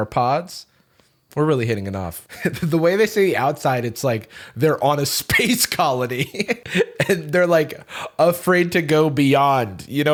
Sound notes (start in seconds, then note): 6.1 laughs